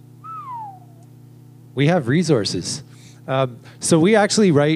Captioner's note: whistles